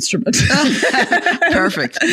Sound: laughing

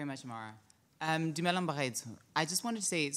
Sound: speaks foreign language

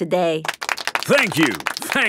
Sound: applauding

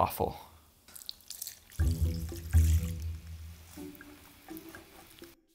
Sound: milk splashes into bowl

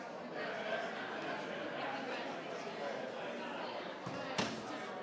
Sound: group chattering continues

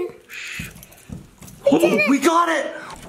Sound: sound of key turning in lock

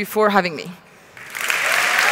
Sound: cheering and Applause

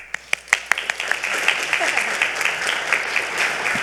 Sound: all clapping

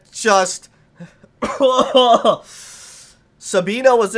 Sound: coughs

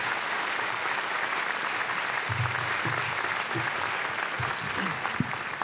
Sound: applause

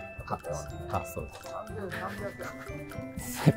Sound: laughing

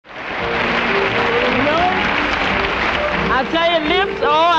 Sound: audience applauding

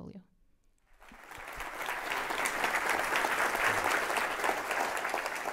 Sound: applause

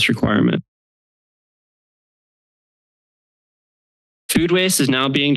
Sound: silence

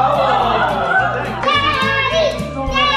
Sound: group yells

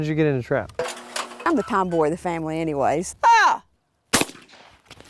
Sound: bang

